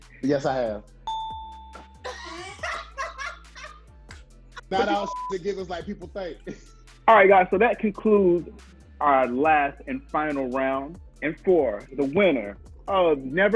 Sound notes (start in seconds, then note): 1.0 bell chiming; 2.0 laughing; 4.8 beep